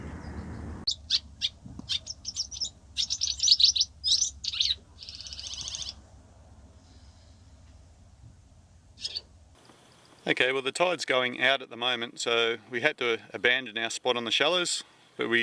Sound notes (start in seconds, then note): 1.8 swallows chirping